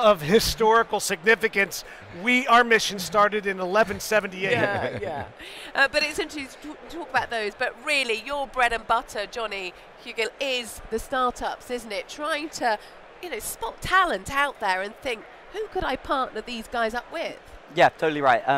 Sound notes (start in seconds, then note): 4.4 laugher